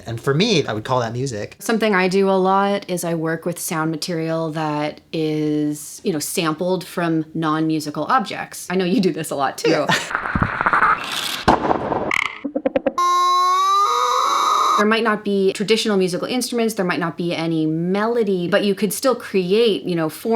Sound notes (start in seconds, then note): 10.1 boiling water; 11.4 loud impact; 13.0 dolphin chirps; 13.0 squealing